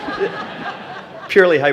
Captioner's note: laughing